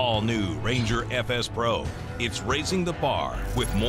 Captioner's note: none